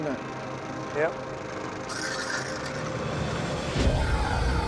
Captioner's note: pump sucking water